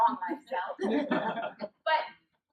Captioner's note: laughter